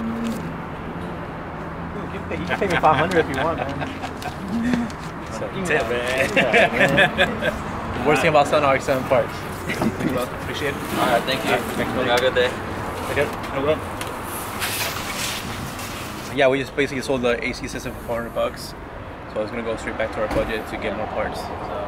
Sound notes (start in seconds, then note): 5.8 laughing